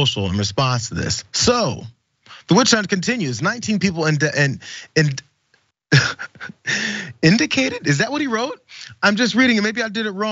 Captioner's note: laugh